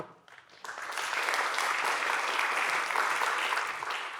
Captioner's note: applause